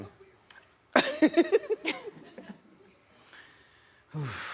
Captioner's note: laughs